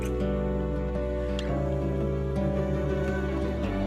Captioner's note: lips smack